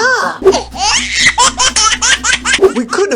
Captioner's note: baby cries